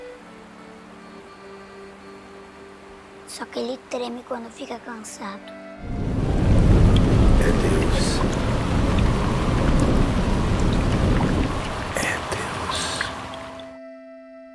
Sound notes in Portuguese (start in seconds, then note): 6.0 Trovão; 8.5 Chuva